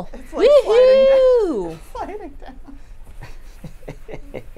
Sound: laughs; laughing

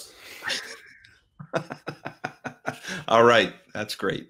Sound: both laughing

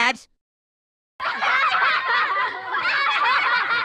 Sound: contestants laughing

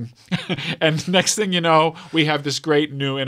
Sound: laughs

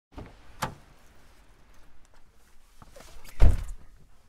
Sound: car door opens and closes

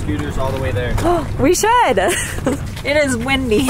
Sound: laughs

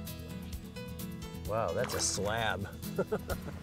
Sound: laughing

